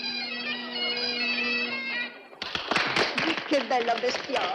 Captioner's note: applause